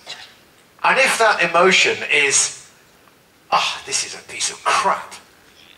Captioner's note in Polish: ekhem